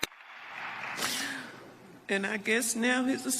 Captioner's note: applause